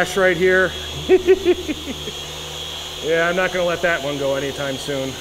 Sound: laughs

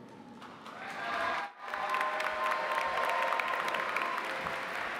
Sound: audience applauding

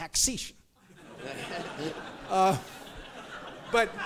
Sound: audience sniggers

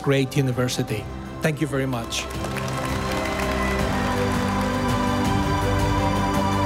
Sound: audience applauding

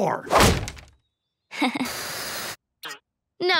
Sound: nervous chuckle

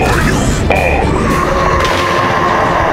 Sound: screaming

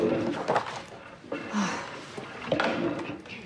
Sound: sighs

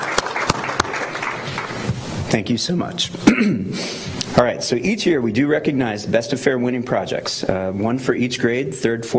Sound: applause

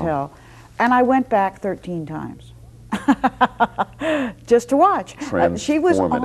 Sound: laughs

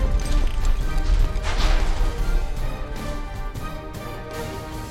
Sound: heavy thud

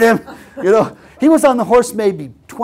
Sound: laugh

